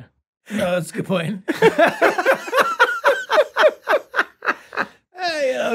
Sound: all laughing

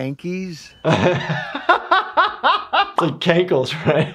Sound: laughs

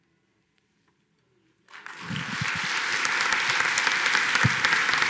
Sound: applause

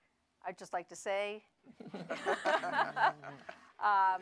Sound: laughter

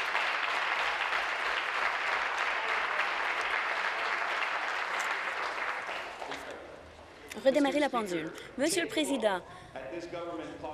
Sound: applause

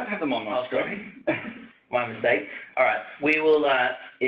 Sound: chuckles

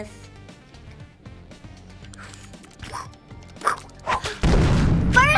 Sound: game Mimicking Noises

